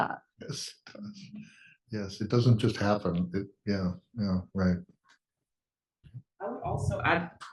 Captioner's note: laugh